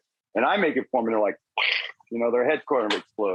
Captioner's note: tongue clicks